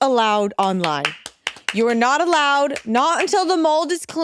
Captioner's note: clapping